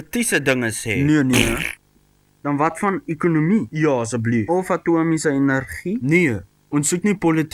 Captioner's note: poop noises